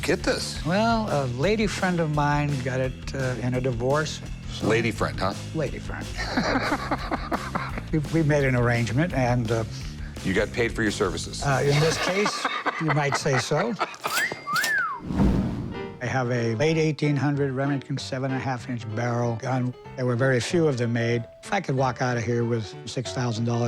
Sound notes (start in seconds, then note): 5.9 laughs